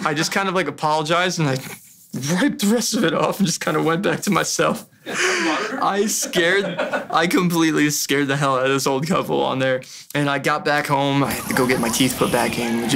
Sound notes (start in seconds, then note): 0.0 laughs nervously; 5.2 muffled voice speaks then laughs